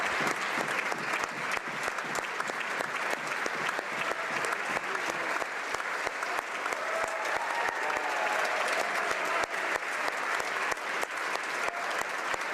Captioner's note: applause